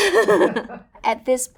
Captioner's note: Raven-Symone laughing